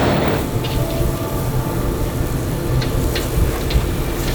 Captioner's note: tow truck engine rumbling; foliage rustling